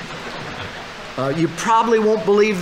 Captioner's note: audience laughing